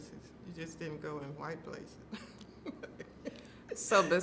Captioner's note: laughing